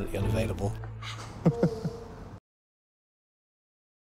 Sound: laughs

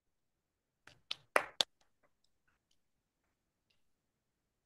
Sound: applause

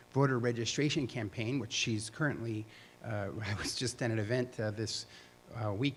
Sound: chuckle

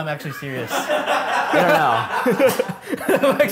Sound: laughs

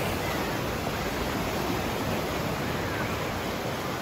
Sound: waves crashing

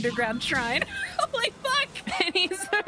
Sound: laughing

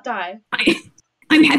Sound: glitching; small laugh

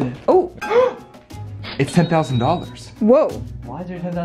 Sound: gasps

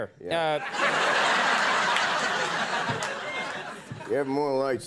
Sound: audience laughing

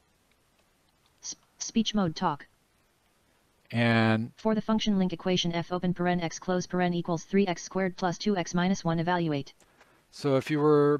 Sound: synthesized speech

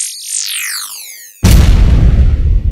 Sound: electronic whirring; loud explosion

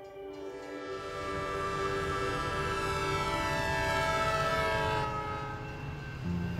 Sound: train horn

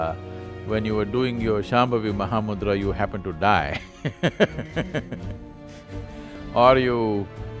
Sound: laughs

